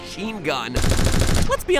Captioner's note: gun shoots